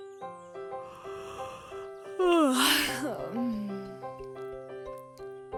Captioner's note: yawns